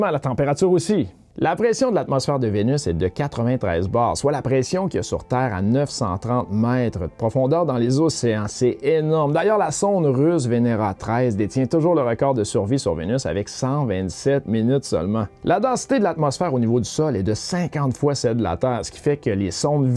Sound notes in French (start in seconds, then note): 10.4 russe